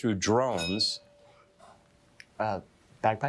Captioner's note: bell dinging